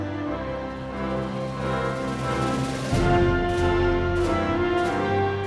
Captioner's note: audience continues cheering